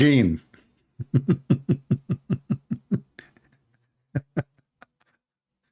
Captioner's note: Ketawa